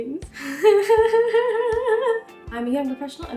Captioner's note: laughing